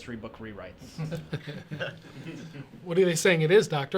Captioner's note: chuckling